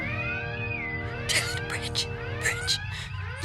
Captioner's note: whispering